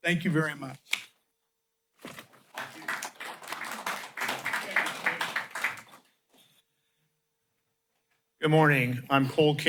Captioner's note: applause